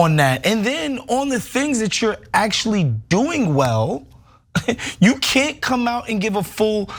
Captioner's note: laugh